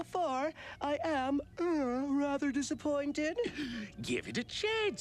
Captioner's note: yawns